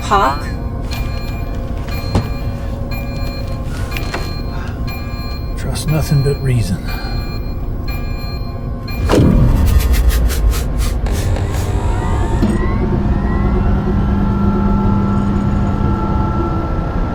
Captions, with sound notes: Hawk? (tense music) (alarm blaring) - Trust nothing but reason. (power droning down) (tense music continues)